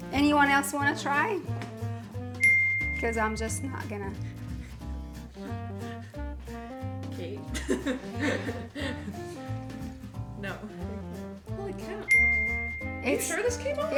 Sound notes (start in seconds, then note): 2.4 bell dings; 7.5 laughs; 12.1 bell dings